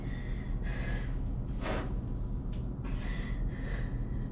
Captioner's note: breathing heavily